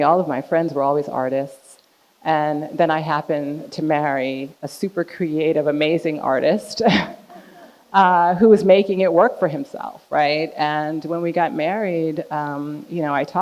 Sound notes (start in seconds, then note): 7.3 chuckles; 8.2 audience laughing